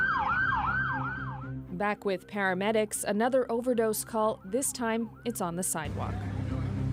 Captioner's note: sirens